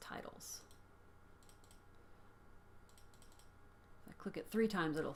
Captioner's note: computer mouse clicks three times